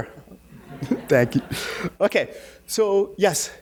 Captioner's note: audience laughing